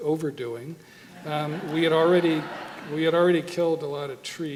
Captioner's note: audience laughter